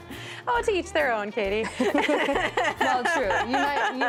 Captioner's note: laughs